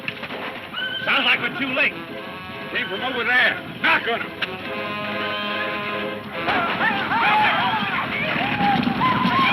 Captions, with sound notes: - Sounds like we're too late. - Came from over there. Knock on it. (men shouting)